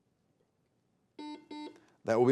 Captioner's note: buzzer beeping